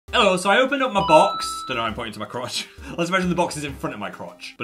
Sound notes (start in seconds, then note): 1.0 box dings